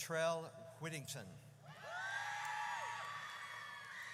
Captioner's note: audience cheers